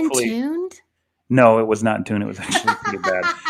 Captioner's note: laughter